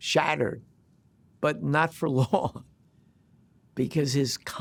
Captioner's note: chuckles